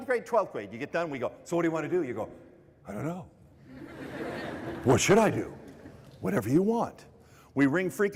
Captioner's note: laughter